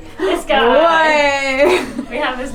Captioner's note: gasps